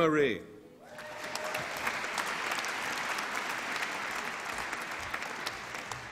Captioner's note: applause and cheering